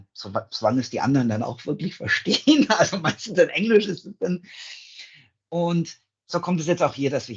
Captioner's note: laughs